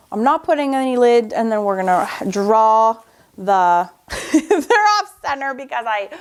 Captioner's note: laughs